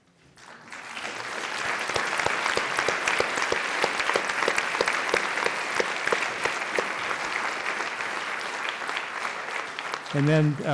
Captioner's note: applause